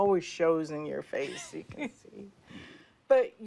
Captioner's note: laughs